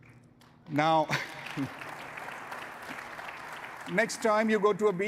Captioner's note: audience applauding